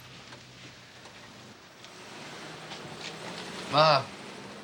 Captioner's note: car departing